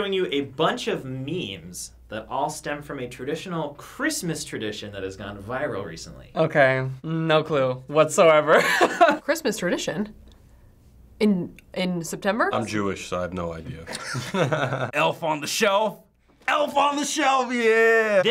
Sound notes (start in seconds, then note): 8.6 laughing; 13.8 laughing